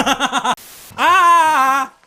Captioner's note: static